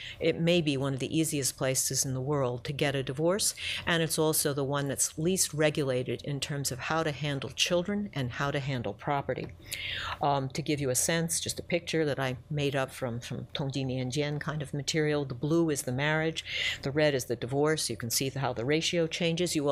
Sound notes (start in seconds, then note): 13.2 speaks Mandarin